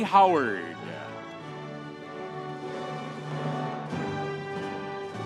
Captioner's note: audience cheering